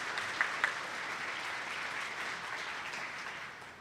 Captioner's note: attendees clapping